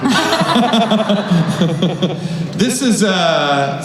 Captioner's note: laughing